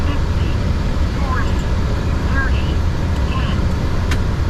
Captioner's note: automated voice on speaker